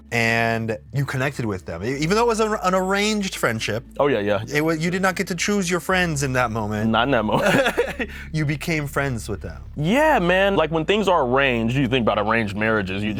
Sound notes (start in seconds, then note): 7.3 both laugh